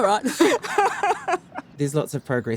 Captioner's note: laughing